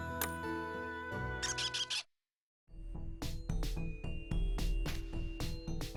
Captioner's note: squeak